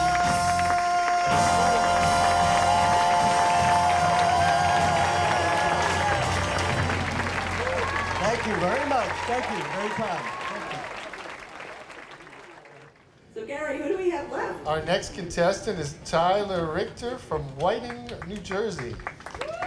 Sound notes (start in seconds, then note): 2.5 audience applauds